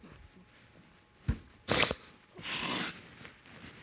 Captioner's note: sniffling